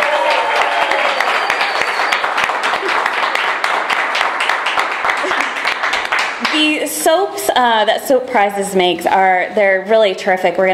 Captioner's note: cheering and applause